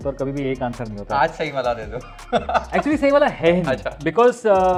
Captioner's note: chuckles